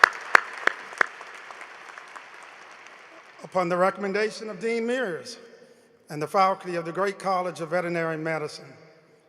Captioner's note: applause